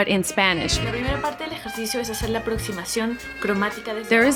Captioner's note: speaking in Spanish